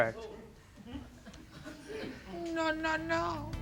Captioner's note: audience laughing